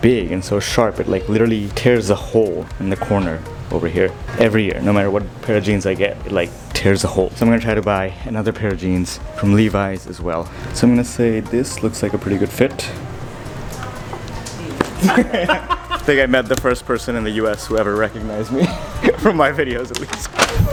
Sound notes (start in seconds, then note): 14.4 laughs